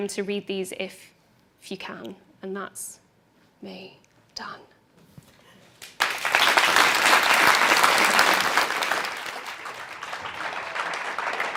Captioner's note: applause